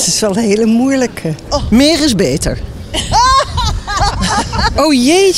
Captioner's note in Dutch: Gelach